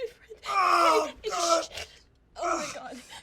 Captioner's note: Ray groaning